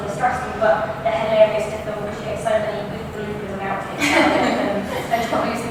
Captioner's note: laugh